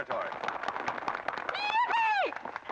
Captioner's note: crowd applause